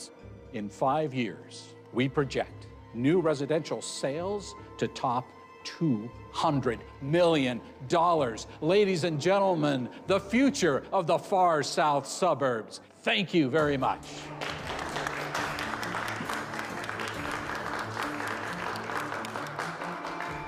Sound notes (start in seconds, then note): 14.0 audience clapping; 14.4 dramatic music begins